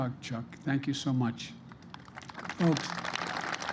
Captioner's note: applause